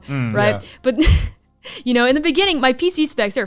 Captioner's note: chuckles